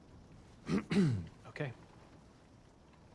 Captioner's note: clears throat